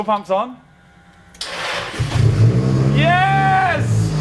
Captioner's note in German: Motor rasselt, startet